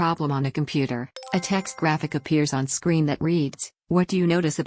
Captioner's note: chime